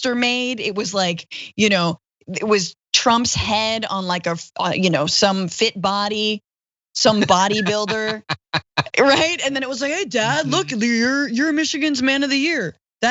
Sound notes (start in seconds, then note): 7.0 laugh